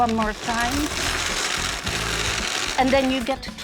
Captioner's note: winding sound